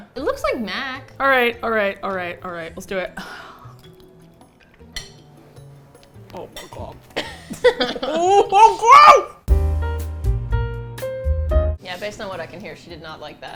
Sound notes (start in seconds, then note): 7.2 laughs; 9.4 smooth jazz music